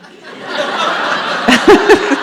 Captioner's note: audience laughs